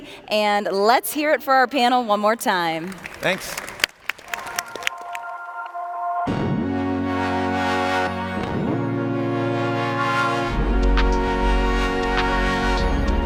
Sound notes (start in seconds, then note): 2.4 audience clapping; 4.6 upbeat music